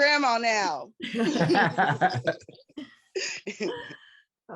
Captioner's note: group laughs